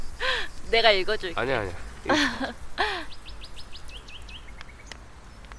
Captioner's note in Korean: 웃음